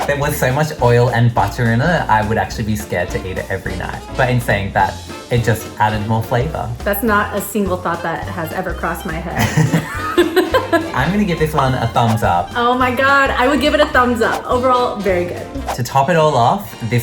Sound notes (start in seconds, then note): 9.3 both laughing